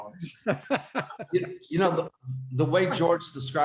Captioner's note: laughing